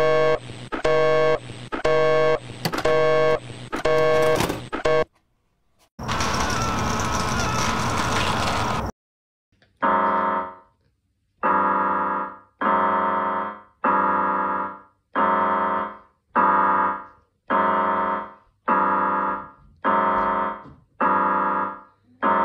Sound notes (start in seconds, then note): 0.2 shrill beeping; 3.3 sound of beeping ends abruptly; 3.7 sound of VHS tape ejecting; 6.1 screaming and sound of flesh being stabbed